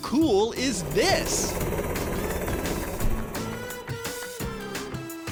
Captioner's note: helicopter blades whirring